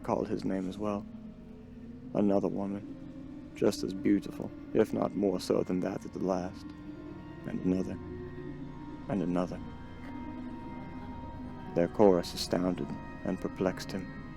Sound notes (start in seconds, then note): 8.8 mystic ringing